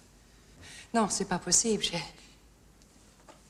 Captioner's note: speaking french